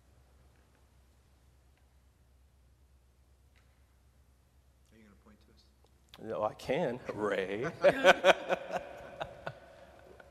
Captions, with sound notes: - Are you gonna point to us? - I can, Ray. (laughing)